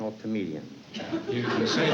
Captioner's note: laughter